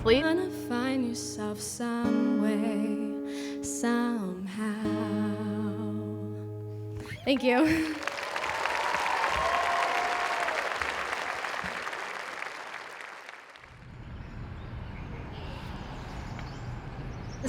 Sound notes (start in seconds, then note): 7.2 audience clapping; 7.6 audience cheering; 14.2 birds chirping